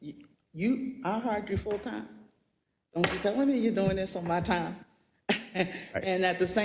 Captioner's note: laugh